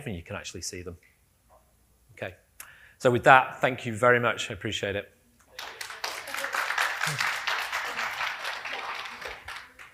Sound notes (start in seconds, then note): 5.5 audience applauding; 8.9 applause